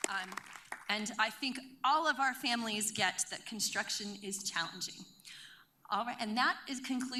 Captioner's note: applause